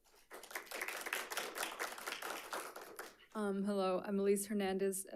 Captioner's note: audience applauding